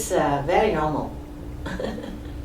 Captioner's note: laughs